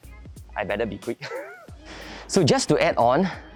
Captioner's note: chuckles